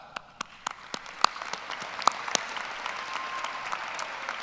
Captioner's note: applause